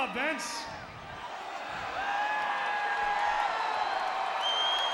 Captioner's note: audience cheering